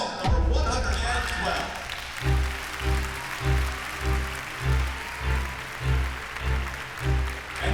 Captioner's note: applause